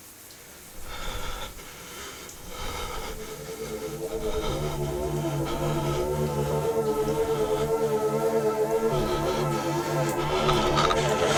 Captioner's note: shower; heavy breathing